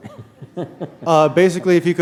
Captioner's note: chuckle